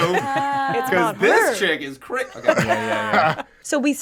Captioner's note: group laughing